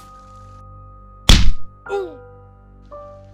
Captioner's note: bang and groan